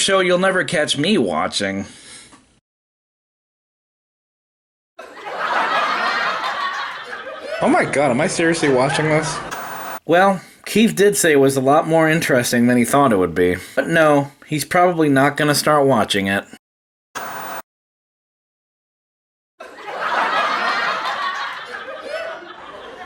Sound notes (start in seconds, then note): 5.0 audience laughing; 9.4 white noise scratching; 17.2 white noise scratching; 19.6 audience laughing